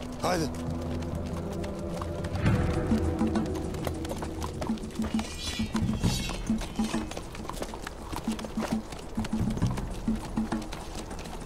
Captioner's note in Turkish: Nal sesleri, kılıç sesleri